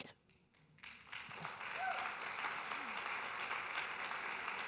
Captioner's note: audience applauding